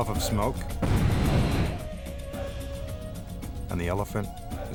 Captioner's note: smoke bomb explodes